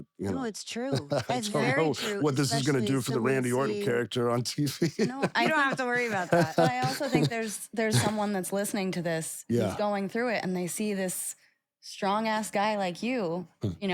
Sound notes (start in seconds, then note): 0.8 laugh